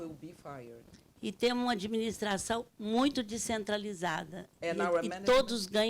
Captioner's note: speaking Portuguese